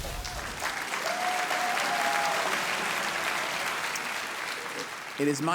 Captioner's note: audience cheering